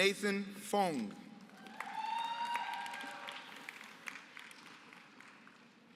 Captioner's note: applause